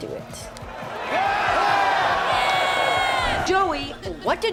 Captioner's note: screaming